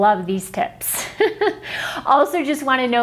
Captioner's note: laughs